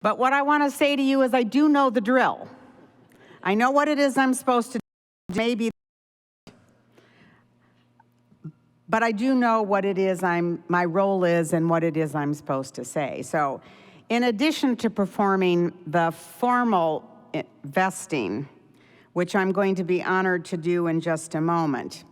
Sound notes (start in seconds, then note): 6.9 audio cuts out